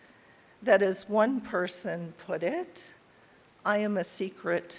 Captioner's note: none